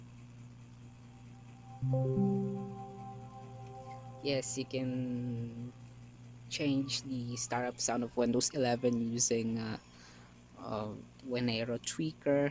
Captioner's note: Windows 10X Startup sound